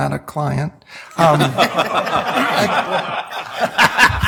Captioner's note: laughing